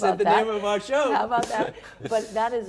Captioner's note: laughs